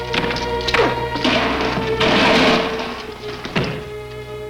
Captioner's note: punch cracking